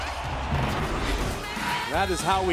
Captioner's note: crowd cheers; graphic booms